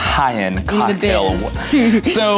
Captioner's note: chuckles